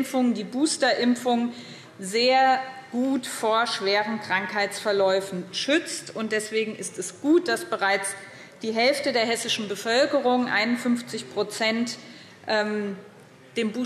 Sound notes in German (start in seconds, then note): none